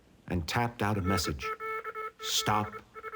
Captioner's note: telegraph beeping